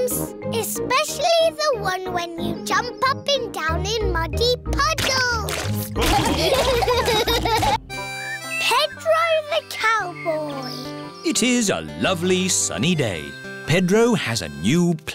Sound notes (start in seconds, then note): 6.0 laughter